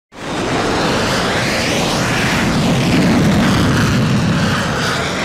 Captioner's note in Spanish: sonido de aviones